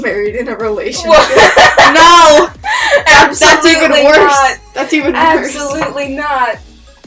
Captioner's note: laughing